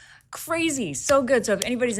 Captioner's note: palms clapping